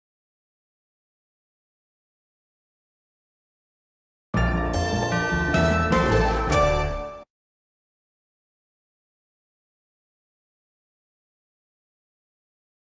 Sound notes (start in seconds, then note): 4.4 upbeat orchestral music; 7.6 silence